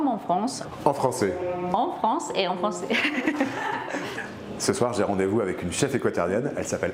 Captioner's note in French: rires